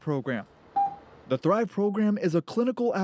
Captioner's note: machine beeps